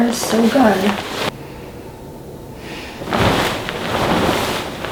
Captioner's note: duvet crunching